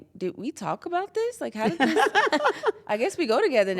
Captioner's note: laugh